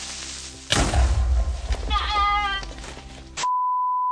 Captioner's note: small yell